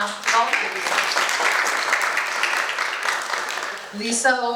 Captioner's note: applause